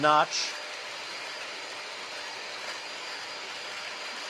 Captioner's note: mixer whirring